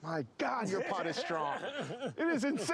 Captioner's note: laughing